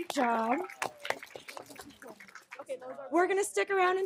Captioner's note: audience clapping